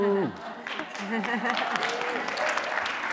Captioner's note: laughter; applause